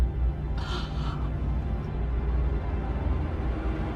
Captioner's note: gasping; dramatic music